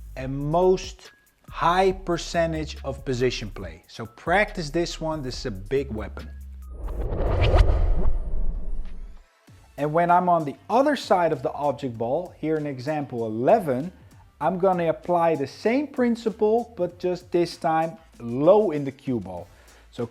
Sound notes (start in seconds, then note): 6.6 transition whooshes; 9.2 upbeat music